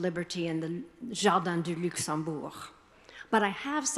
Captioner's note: speaking foreign language